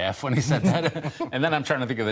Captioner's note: laughter